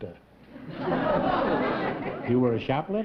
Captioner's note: laughter